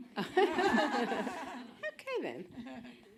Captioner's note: audience laughing